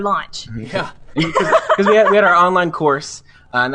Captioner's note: laughs